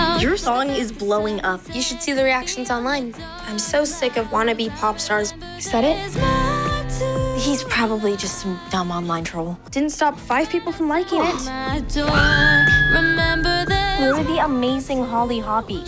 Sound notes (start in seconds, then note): 11.1 gasps; 12.1 screaming; 12.9 singing